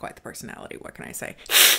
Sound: hisses

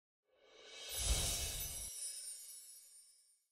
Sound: twinkling

